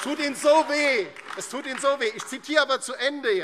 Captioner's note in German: Beifall DIE LINKE und vereinzelt SPD